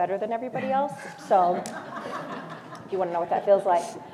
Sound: laugh

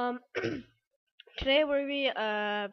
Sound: ahem

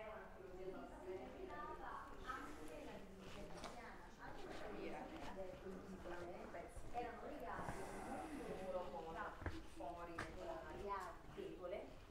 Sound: background chatter

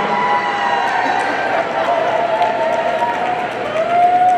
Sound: audience cheering

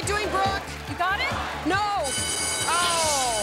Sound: alarm blares

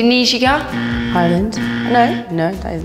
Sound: incorrect buzzer

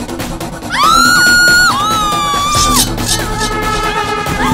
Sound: screaming

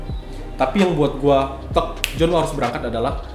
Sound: snap

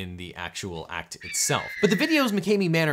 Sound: eagle screeching

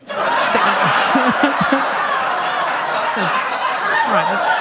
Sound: audience laughing

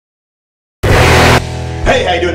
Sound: bwom

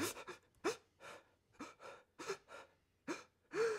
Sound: Sam crying

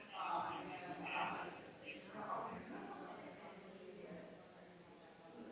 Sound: people chattering distantly continues

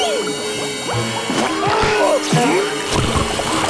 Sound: screaming

